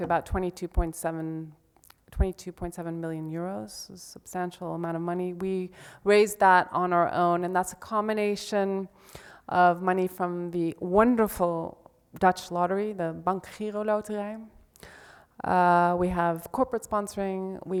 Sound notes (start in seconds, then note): 13.5 speaks in Dutch